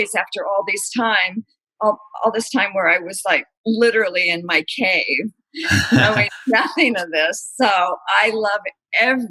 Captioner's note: laughter